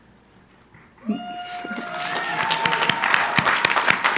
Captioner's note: crowd cheering